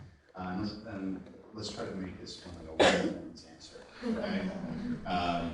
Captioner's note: murmuring